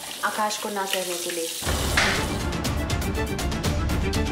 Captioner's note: phone thuds